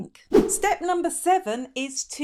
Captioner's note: air whooshing